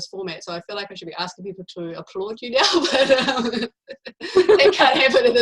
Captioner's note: laughing